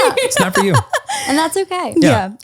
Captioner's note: laughs